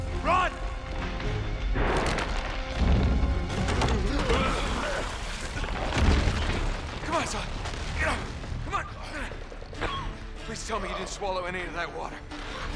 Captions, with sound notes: RUN! C’mon, Sully, get up! C’mon! (cough) Please tell me you didn’t swallow any of that water!